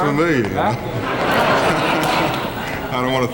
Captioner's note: audience laughing